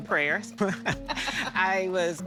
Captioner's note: laughing